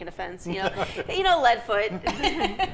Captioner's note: laughs; laughing